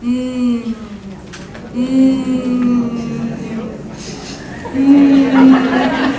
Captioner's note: imitating /m/ sound